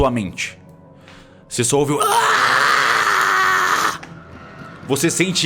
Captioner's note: sukkal groans